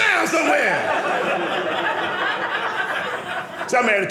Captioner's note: audience laughing